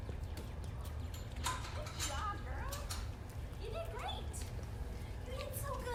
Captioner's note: lock closing